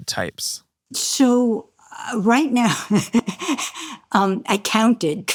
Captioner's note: laughs